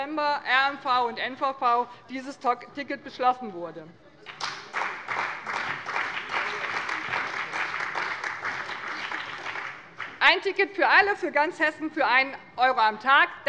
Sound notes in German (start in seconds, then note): 4.2 Beifall bei dem BÜNDNIS 90/DIE GRÜNEN und der CDU